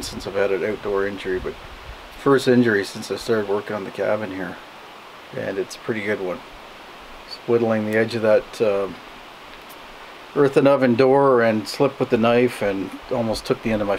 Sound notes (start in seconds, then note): none